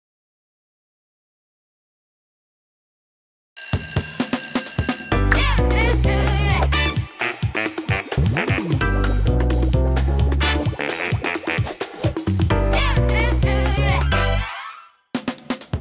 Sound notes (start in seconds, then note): 3.6 bell ringing